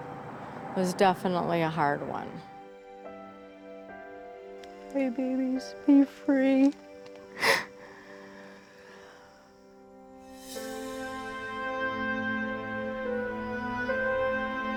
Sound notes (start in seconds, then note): 7.3 crying; 9.7 melancholic music